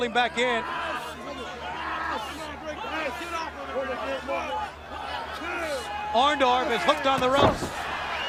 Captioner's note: crowd chatter